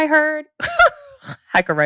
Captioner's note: laughs